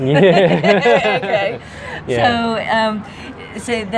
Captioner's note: laughter